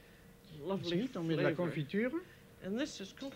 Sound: speaking French

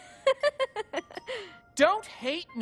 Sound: laughing

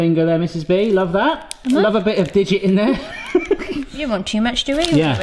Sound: laughs

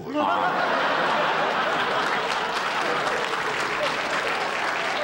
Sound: audience laughter

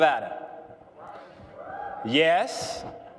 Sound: quiet cheers

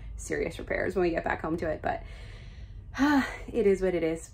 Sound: sighs

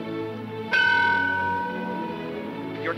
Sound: bell ringing

